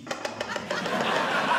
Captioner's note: speaking French; tapping; audience Laughing